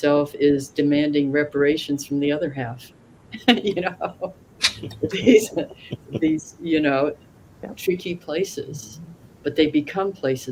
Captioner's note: laughs